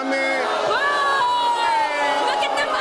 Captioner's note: audience booing